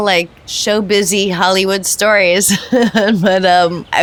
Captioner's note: laughs